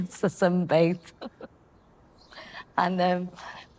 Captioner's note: chuckles